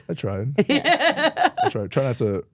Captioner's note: host laughing